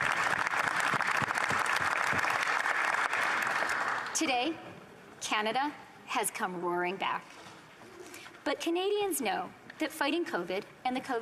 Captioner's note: applause